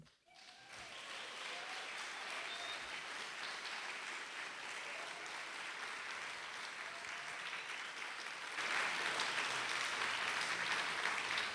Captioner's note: applause